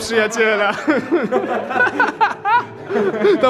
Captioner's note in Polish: śmiech